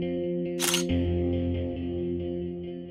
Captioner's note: camera shutter sound